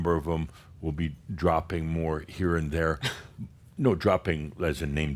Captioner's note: chuckles